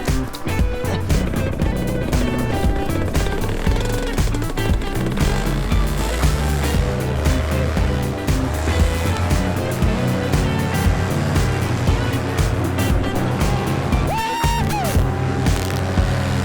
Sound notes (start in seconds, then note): 1.1 laughs; 1.1 machine engine roars